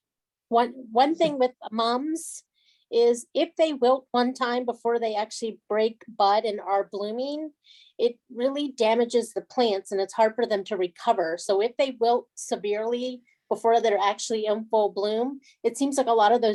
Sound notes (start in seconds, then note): none